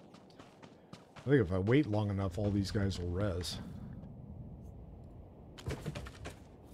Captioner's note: gunshots